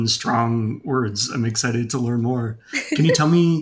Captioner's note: chuckles